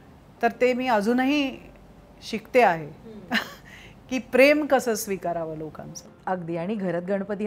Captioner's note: Chuckles